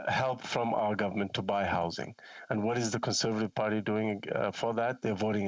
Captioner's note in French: voix de l'interprète